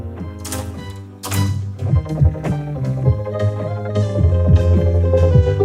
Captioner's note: wooden boards creaking